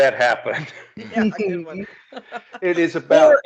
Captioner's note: laughing